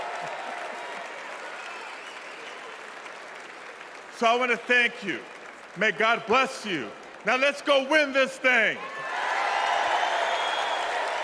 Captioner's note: cheers and applause